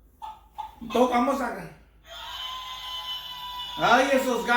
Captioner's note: rooster crowing